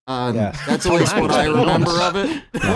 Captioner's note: laughs